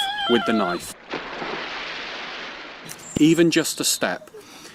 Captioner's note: Tarzan call